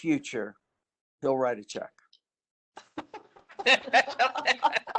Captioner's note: laughter